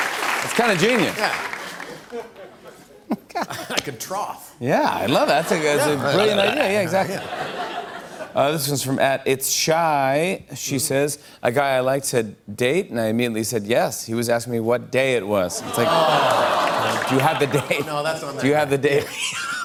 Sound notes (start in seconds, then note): 1.6 chuckles